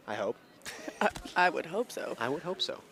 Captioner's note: chuckles